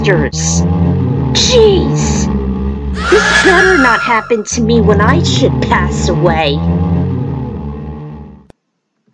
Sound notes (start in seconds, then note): 2.9 scream